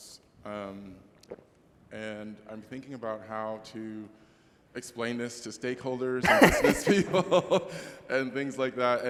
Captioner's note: laughter